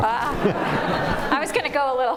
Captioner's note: laughter